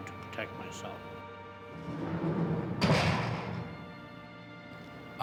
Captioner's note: door closes